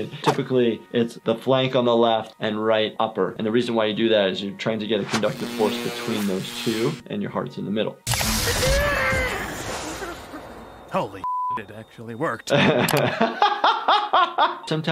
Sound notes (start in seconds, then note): 8.1 paddles buzzing; 8.3 patient crying out; 12.3 laughing